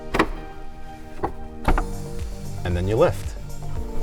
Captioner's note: clamps snapping